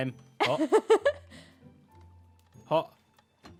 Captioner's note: laughs